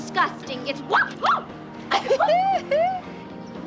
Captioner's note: chuckles